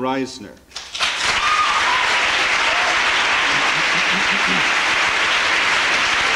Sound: applause

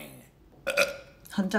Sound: burp

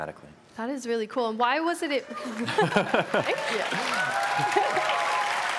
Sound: audience Applause

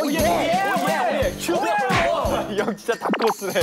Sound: frustrated

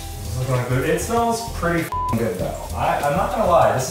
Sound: beep

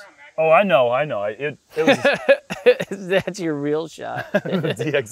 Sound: chuckles

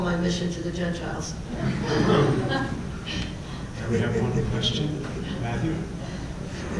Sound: laugh

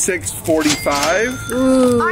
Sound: cash register sound

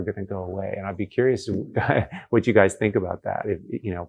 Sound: laughs

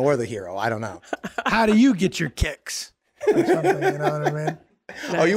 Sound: laughing

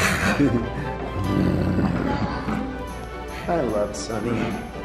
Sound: Sunny growling

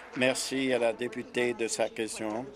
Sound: applause

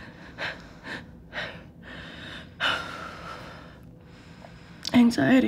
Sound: B takes intentionally deep, slow breaths

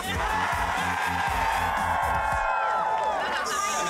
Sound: cheers and applause

